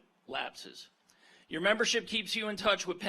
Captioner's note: none